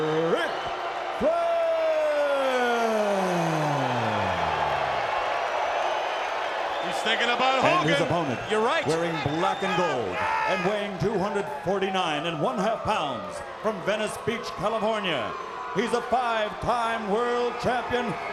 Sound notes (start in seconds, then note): 5.1 crowd cheering; 5.1 crowd whistling